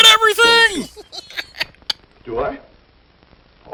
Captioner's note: cackles